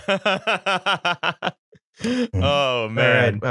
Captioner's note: laughter